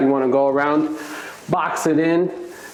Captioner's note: towel swishes